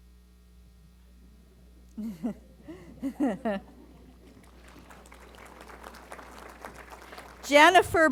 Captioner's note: laughter & Applause